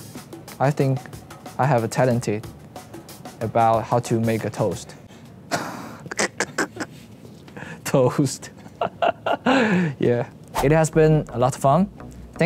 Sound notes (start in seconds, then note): 5.6 laughs